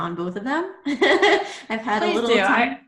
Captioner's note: laughs